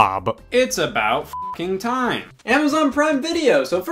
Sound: beep

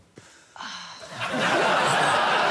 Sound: laughter

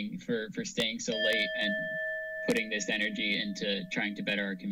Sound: alarm sound

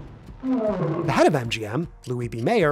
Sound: lion roaring

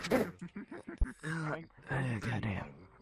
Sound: groan

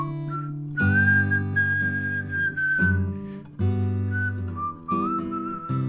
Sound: whistling

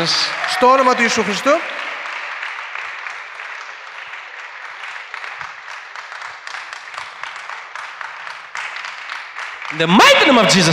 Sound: applause

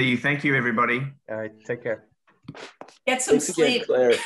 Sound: laughs

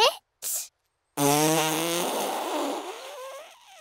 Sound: blows raspberry

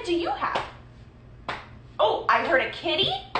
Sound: slapping

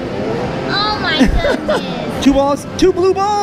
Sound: laughs

